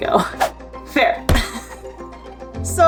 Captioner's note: laughs